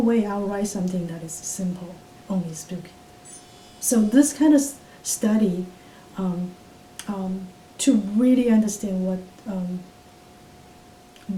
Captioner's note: watch beeps